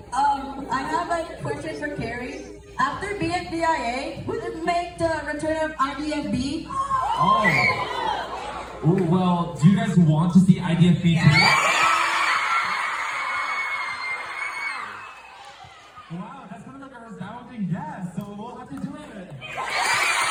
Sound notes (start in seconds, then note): 11.2 excited audience screaming; 19.5 even more excited audience screaming